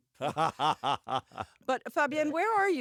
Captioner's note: laughter